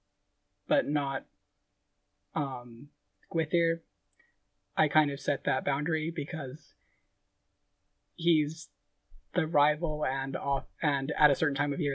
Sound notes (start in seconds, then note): none